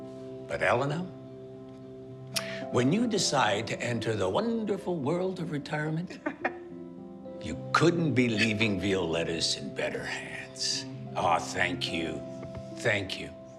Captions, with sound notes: But, Elena... When you decide to enter the wonderful world of retirement... (Elena laughs) ...you couldn't be leaving Violetta's in better hands. Ah, thank you. Thank you.